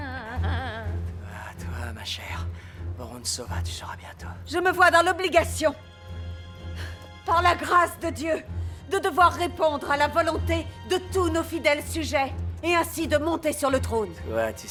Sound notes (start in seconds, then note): 6.7 sighs